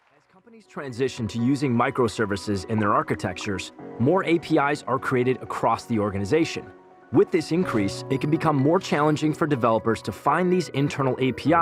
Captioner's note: applause